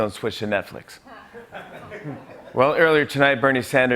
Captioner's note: laughter